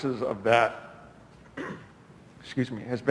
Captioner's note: clears throat